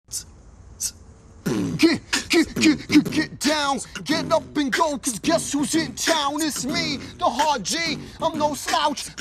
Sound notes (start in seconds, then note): 0.7 beatboxing; 1.4 rapping